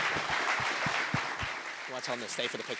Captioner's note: applause